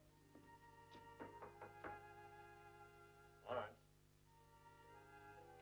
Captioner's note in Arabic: طرق خفيف